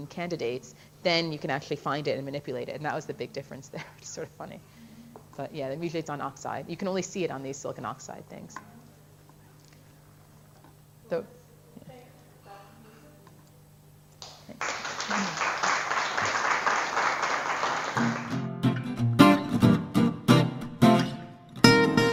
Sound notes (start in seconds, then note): 16.1 audience applause; 17.9 music playing-- no dialogue